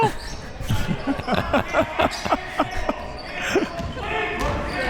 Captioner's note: laughing